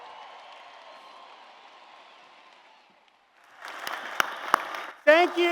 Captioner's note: applause and Cheers